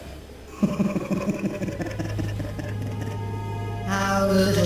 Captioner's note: sardonic laugh